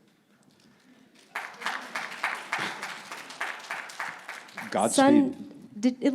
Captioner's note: audience clapping